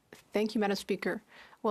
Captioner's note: speaking French